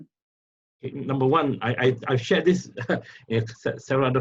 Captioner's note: laughs